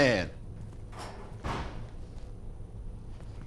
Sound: door closing

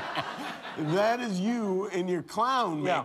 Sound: laughter

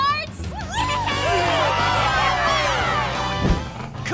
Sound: cheering

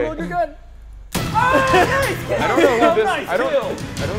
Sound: laugh

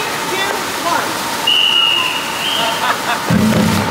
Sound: whistle blows; person laughing

